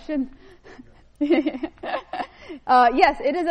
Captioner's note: laughs